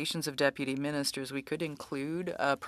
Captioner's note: speaking French